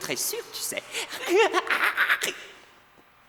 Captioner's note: laughing maniacally